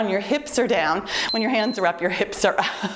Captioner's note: timer beeps